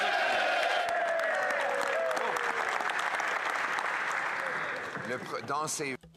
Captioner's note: some Applause